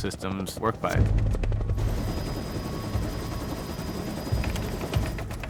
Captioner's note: rotor blades whirring